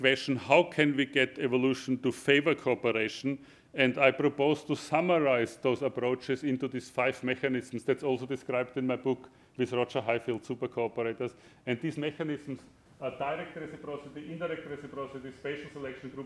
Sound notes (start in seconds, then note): none